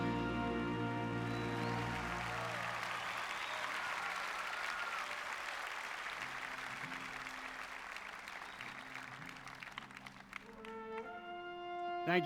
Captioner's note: applause